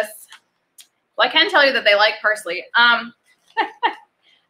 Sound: laughs

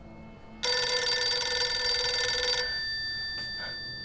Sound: phone ringing

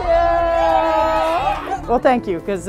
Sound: cheering

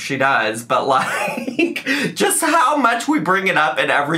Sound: laughing

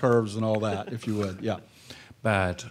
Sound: panel laughing

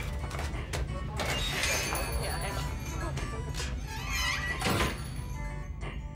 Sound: door creaks; gentle music plays

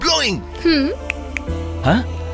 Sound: snaps finger

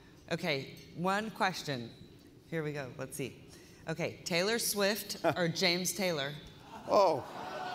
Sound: laughter

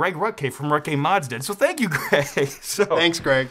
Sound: laughs

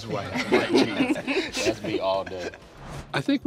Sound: laughing

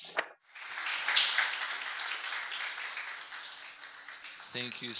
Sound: audience clapping

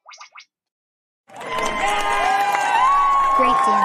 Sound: all cheering

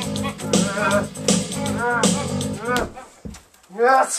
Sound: grunting

